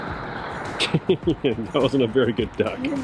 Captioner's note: chuckles